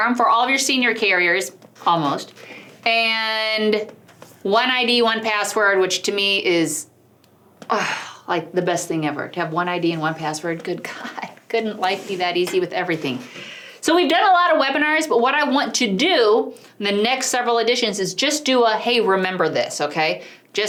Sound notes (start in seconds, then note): 7.0 huffing